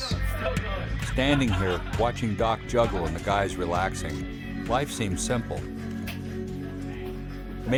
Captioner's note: voiceover